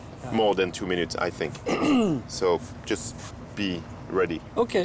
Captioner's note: clears throat